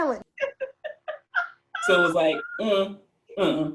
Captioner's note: uncomfortable laughter